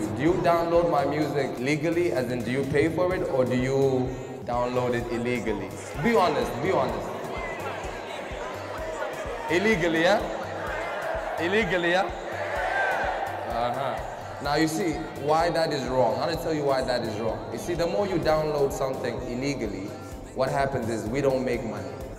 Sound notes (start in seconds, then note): 7.1 chatter